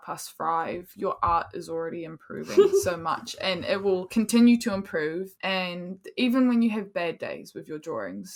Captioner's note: laughs